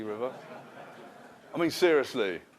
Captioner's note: laughter